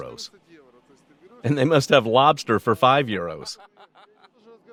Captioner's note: laughing